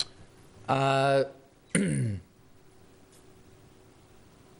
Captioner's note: clears throat